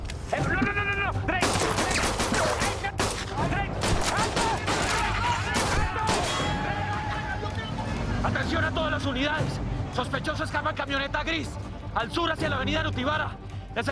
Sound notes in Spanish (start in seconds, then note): 3.0 Disparos; 4.2 Gritos